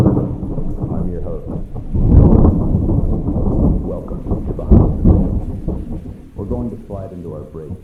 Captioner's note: SFX: Thunder